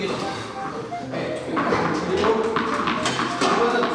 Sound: bouncing

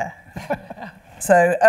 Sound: laughing

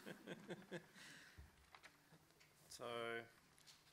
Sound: laughter

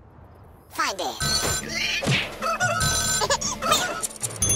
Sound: sound effects play

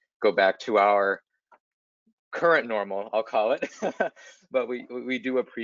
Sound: chuckling

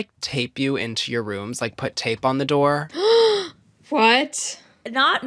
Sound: gasps

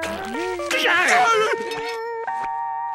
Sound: screaming

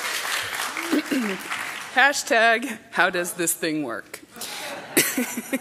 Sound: laughter; applause

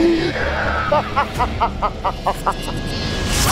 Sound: laughing

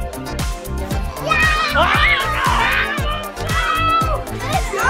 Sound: screams

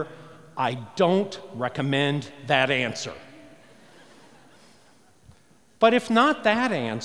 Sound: laughter

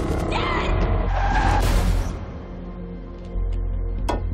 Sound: crash

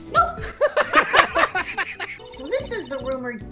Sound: laughter

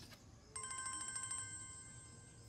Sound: phone rings

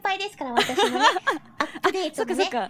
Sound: laughing

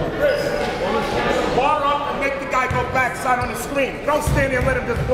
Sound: referees shouting

